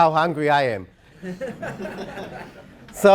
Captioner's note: laugh